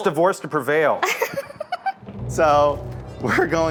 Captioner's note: laughing